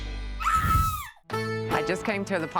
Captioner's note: scream